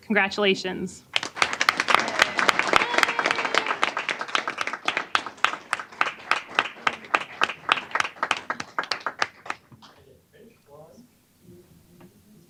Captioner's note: applause